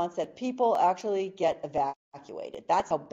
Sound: none

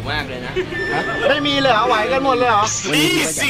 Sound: laughs

